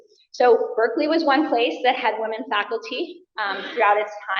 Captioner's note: coughs